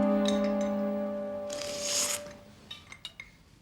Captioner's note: slurps